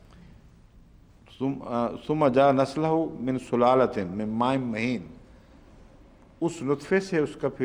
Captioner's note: Arabic